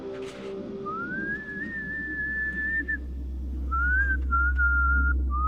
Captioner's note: whistling